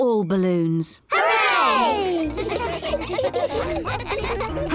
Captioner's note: giggling